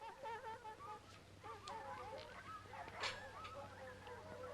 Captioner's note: dogs barking and howling